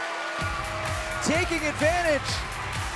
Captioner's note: bell ringing; crowd cheering